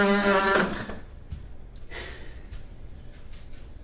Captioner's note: Nev huffs